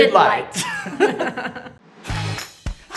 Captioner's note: hosts laugh; upbeat music